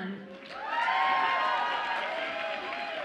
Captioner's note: audience applauds and cheers